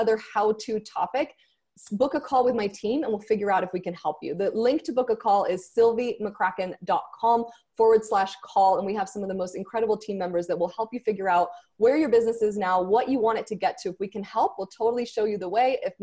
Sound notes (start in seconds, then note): none